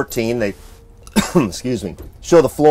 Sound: coughs

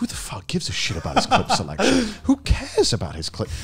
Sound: laughs

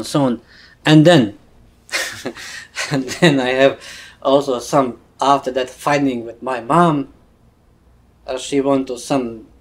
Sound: laughs

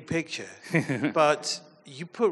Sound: chuckles affirmatively

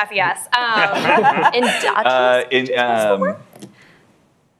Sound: laughter

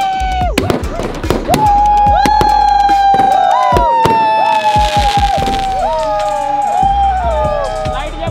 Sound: flashy Crackling sound; shouting in joy

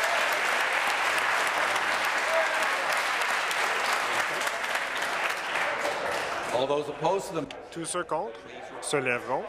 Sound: applause

